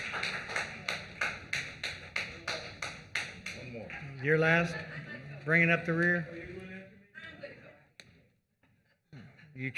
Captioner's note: applause